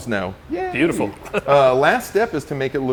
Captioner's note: laughing